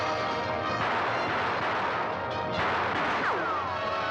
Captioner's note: suspenseful music; dramatic music; gunfire; bullet ricochets